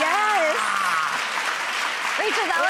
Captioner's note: applause